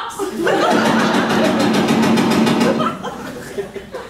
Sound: audience laughing; rapid machine gun firing

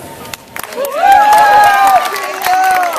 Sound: cheers

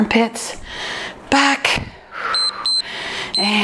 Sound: timer beeps

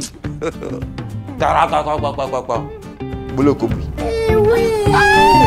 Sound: sounding like fowl

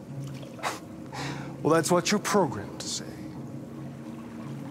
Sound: chuckle

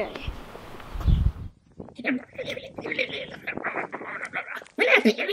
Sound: weird alien noises

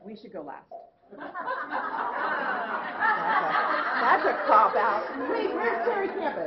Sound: laughter

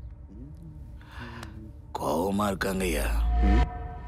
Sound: sigh

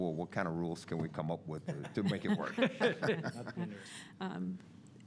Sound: laughs

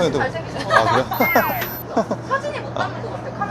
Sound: hahahahahaha⭐

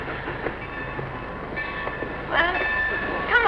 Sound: train bells

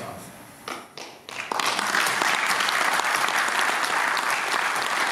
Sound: applauding

